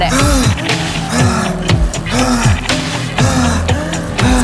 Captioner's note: heavy breathing